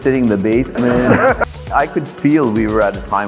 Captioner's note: static crackles